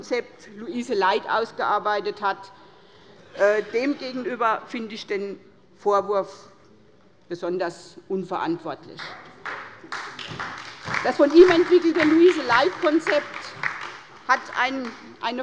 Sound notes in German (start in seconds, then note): 9.0 Beifall bei der SPD und der LINKEN